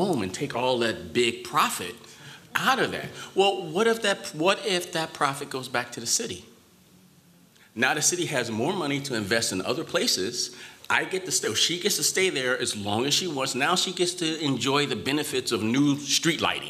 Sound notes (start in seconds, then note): none